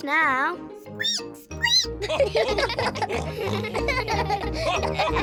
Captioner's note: squeaks; all giggle